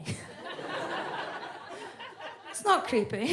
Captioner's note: audience laughs